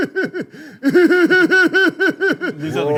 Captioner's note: seductive laughter